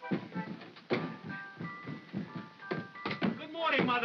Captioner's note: heavy footsteps down stairs